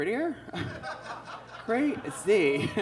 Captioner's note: audience laughs